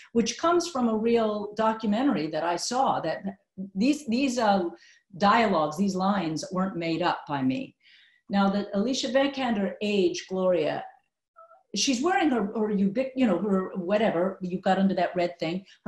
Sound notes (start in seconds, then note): none